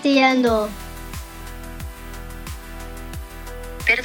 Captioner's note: in spanish